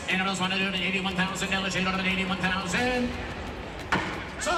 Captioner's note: auctioneer chant